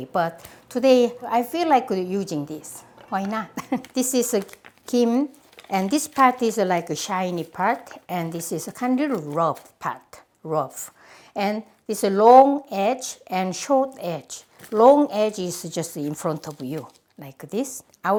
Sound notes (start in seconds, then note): 3.6 laughs